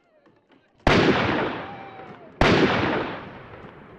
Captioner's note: guns firing